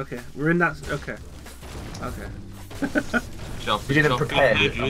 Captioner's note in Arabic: يضحك